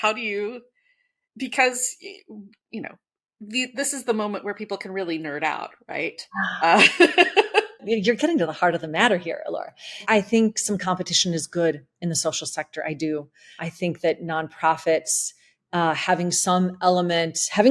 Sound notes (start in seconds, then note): 6.4 laughs